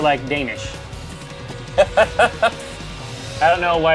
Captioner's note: "Ha" four times